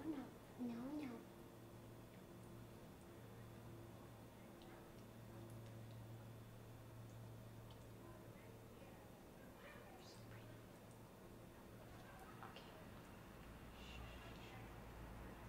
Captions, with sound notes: No, no, no, no. (whispering) Wow, you're so pretty.